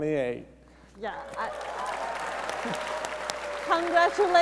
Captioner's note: audience cheering